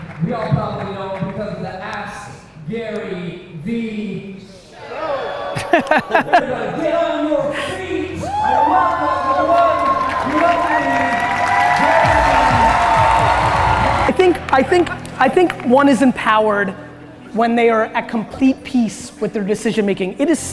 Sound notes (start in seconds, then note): 5.5 Gary laughs